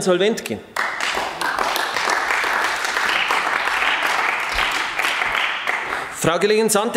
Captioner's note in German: Beifall bei den GRÜNEN